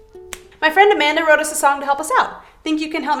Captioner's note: snaps